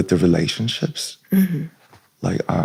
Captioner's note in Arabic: ضحك